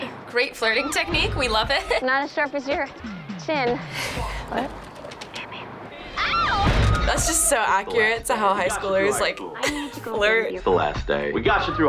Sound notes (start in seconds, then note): 3.6 chuckles; 5.2 whispers